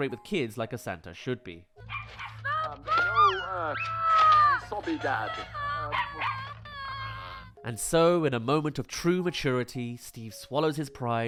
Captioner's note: cry screaming